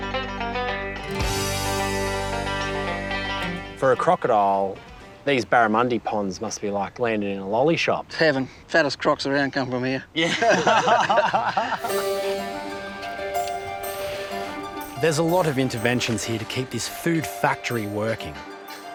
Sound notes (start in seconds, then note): 10.2 all laugh